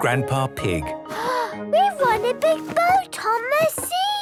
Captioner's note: gasps